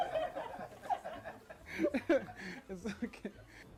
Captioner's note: laughter